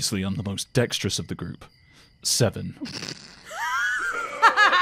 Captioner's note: laughter